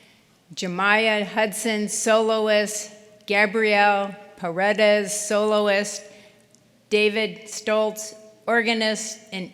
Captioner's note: none